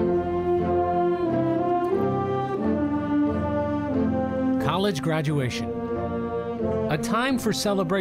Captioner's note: voice-over